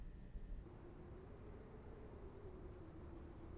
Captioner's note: insects chirring